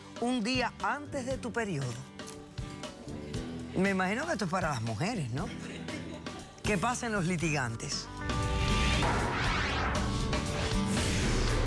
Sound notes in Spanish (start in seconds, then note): 5.4 risas